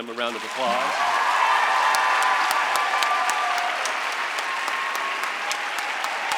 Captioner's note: audience applauds and cheers